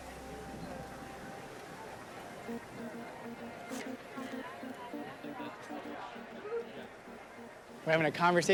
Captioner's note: indistinct background chatter